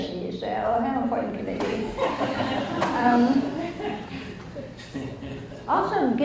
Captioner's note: audience laughs